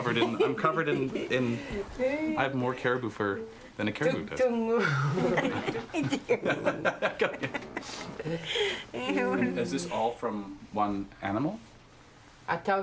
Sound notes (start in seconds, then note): 4.9 laughing